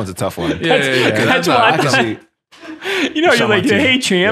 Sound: men chatting

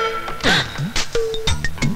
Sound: gasps

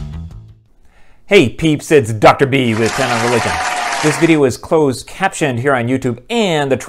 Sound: applause

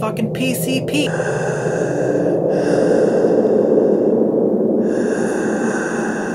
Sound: heavy breathing

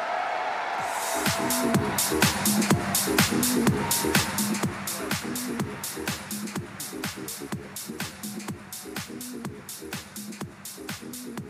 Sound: applause

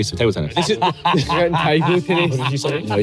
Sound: laughing

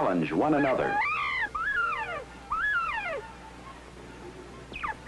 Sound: bobwhite sounds

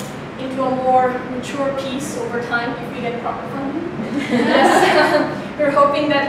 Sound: laughs

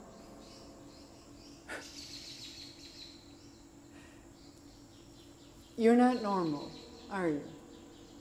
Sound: atmospheric sounds rise then fall, rise then fall

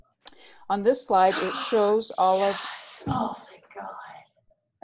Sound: microphone static

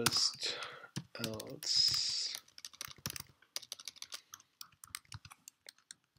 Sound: typing; typing

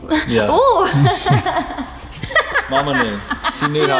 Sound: laugh

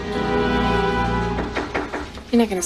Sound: knocks on door

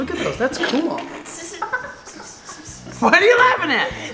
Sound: kids laughing

